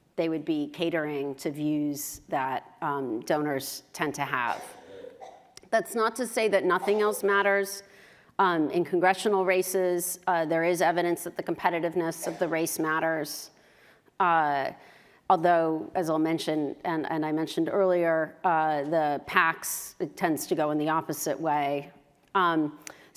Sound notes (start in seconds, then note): 4.4 cough